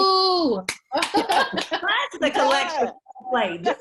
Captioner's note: clapping